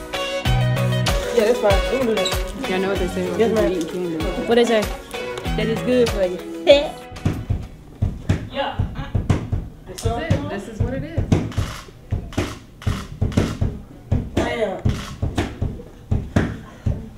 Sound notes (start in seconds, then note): 1.2 voiceover; 4.6 voiceover; 7.3 rhythmic hitting; 9.9 voiceover